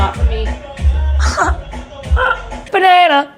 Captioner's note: laughs